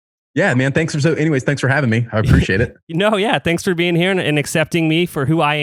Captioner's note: laughs